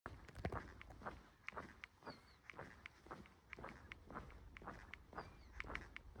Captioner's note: footsteps